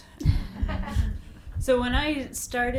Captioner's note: audience laughs